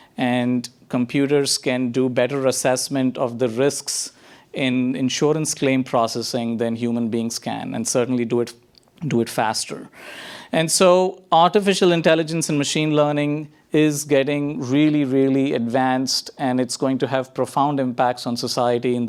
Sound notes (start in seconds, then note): none